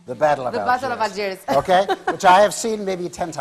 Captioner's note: laughing